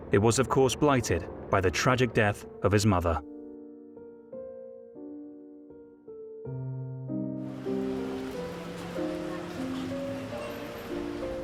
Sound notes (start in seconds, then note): 7.5 rain pattering